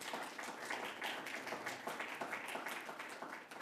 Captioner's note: applause